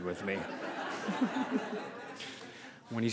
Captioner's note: laughter